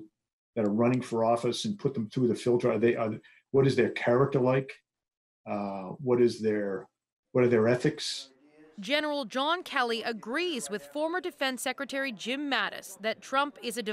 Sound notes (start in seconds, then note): none